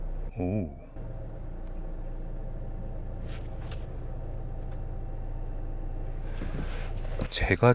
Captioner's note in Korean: 엔진사운드; 엔진사운드